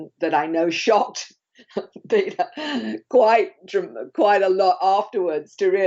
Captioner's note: chuckling